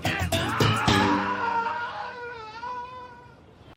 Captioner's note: music fades out while screams